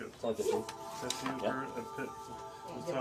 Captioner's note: chatters